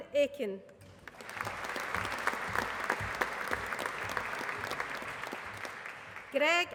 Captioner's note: applause